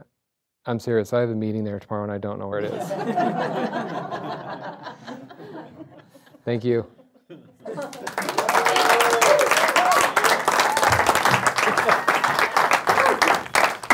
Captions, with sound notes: I'm serious, I have a meeting there tomorrow and I don't know where it is. (audience laughs) Thank you. (audience cheers)